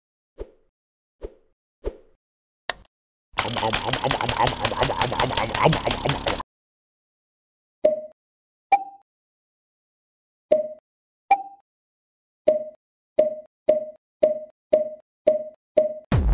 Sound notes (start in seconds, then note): 2.7 click; 7.8 pong; 8.7 ping; 10.5 ping; 10.5 pong; 12.4 ping